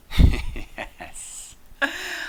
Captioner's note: laughs